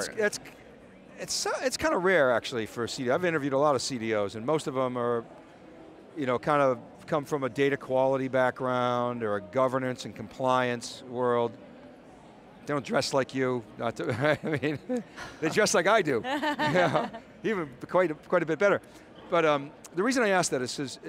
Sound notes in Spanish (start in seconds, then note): 14.4 risas